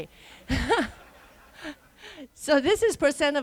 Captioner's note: laughter